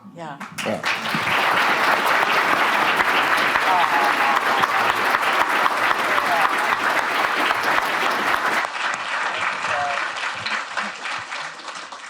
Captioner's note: applause; upbeat music playing